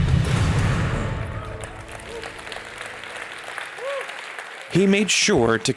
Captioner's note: dramatic music; audience applauding